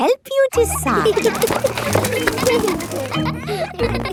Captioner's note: kids giggling